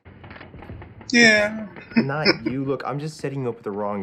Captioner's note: chuckling